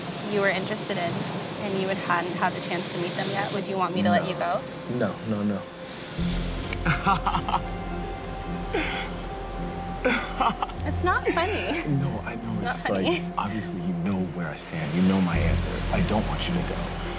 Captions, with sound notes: and you hadn't had the chance to meet them yet, would you want me to let you go? - No. No. No. No. [laughs] [tense music] - It's not funny. - No, I know. - It's not funny. - It's just, like, obviously you know where I stand. You know my answer. I don't want you to go.